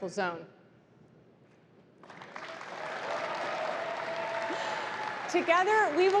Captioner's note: applause